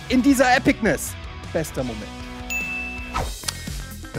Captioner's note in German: Klingeln